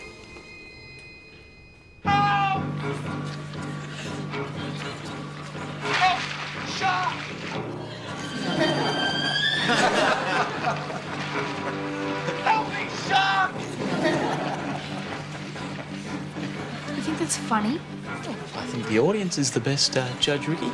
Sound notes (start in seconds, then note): 7.5 crowd laughs; 13.1 all laugh